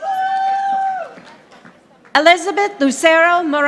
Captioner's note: audience applauding